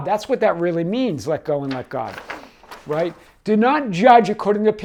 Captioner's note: page turning